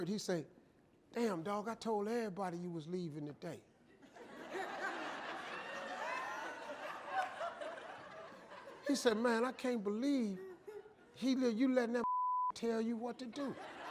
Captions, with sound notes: and he said, damn dog I told everybody you was leaving today. (audience laughing) He said man I can't believe you letting that motherfucker tell you what to do.